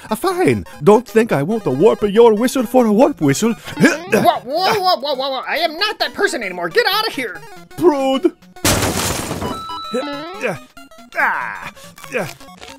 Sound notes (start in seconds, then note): 3.8 grunts; 8.6 ceiling smashing; 10.4 Mario grunting